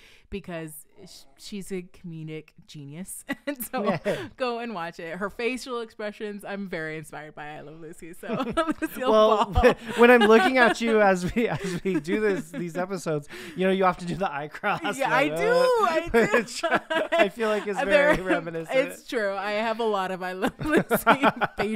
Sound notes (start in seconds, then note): 8.3 laughing; 14.6 both laughing